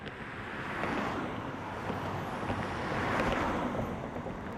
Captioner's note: cars passing